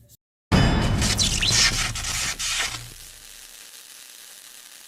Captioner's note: electricity buzzing